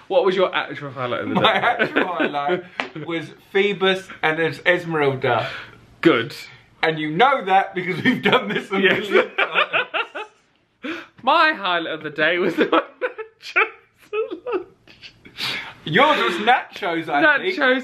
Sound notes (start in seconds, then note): 0.0 pair laughs; 9.8 pair laughing; 15.3 laughing